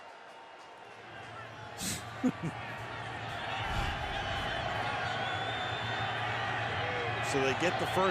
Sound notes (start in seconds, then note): 1.8 laughs